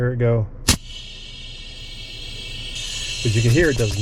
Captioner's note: gas hissing